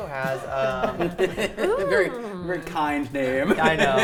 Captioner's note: players laughing